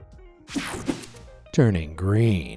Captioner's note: screen whooshing